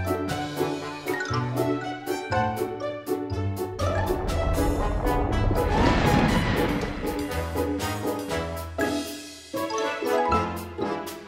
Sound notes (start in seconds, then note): 3.6 ground shakes